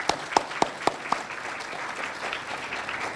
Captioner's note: applause